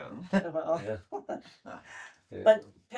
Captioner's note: laughter